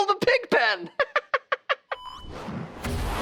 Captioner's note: laughing